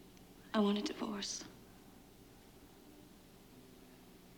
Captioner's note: none